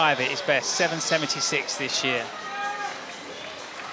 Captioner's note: applause